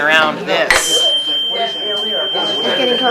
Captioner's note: tuning fork hits